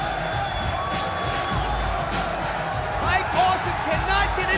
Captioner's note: crowd cheering; upbeat music continues; trash can thuds